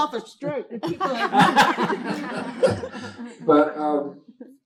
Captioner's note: laughter